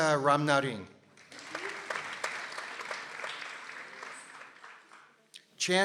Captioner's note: people applauding